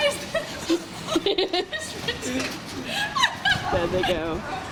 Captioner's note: laughter